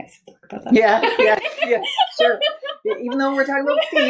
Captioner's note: laughing